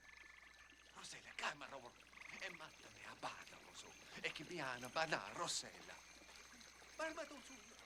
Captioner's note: speaking in illyrian language